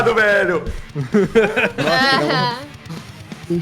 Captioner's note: laughs